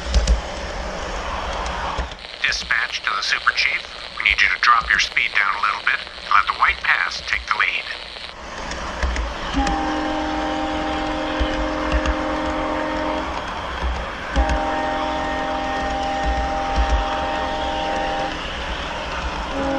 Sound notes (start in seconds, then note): 1.9 message on the radio; 9.4 train horn